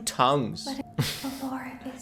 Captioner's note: laughs